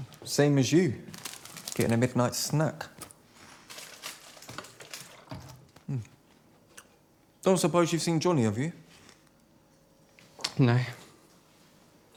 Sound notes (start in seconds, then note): 0.0 plastic rustling; 3.7 liquid sloshing; 3.9 plastic rustling